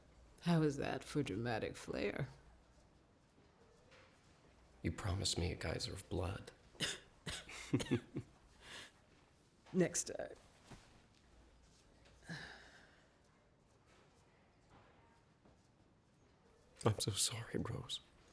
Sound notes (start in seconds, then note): 6.7 coughs; 7.4 chuckles